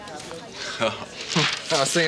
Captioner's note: laughter